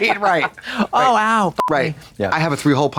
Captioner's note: beep